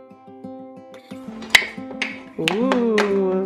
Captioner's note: toys clanking